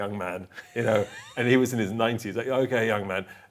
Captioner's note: laughs